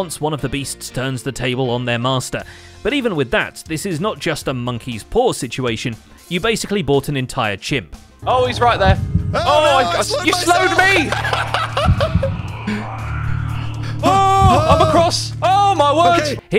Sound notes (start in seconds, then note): 9.9 laughs; 12.5 dungeon noises